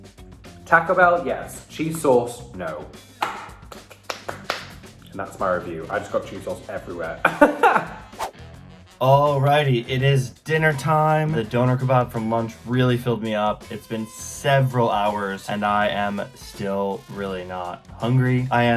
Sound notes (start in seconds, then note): 7.2 laughs